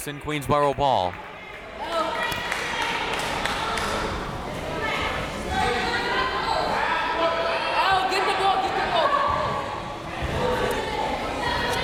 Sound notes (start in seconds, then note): 2.4 crowd clapping; 4.7 crowd members shouting